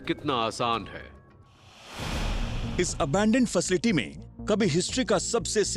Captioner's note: narrating